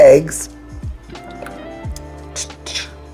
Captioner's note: eggs trickling